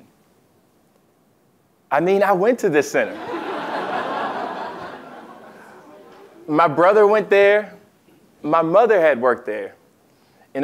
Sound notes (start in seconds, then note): 3.2 laugh